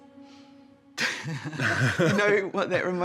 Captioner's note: both laugh